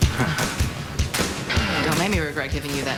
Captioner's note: both chuckle